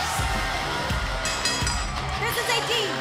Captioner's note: bell ringing